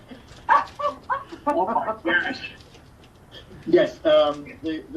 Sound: laughs

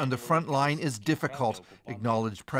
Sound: speaking alternate language

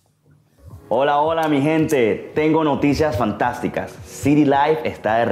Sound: speaking Spanish

